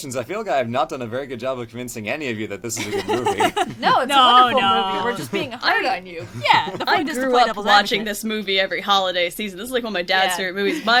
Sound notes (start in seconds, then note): 2.8 laughs